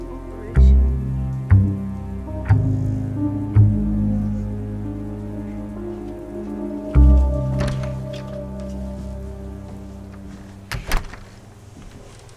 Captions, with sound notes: ...Operation... ...Volfovich. [door opening, footsteps] [door closing]